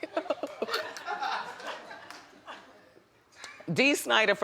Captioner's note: audience chuckling